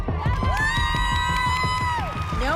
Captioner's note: cheering